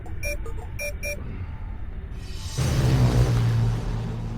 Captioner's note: console beeps